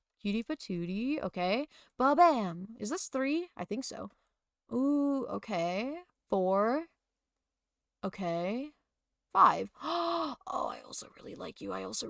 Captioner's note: gasp